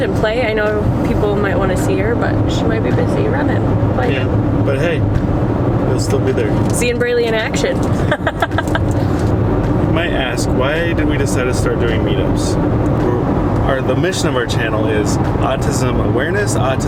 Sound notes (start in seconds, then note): 7.8 laughing